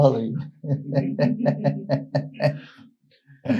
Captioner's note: laughs